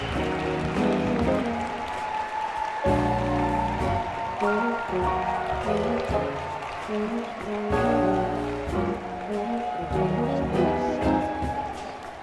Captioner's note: cheering and applause